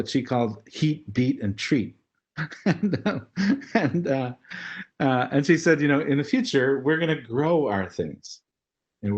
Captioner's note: laugh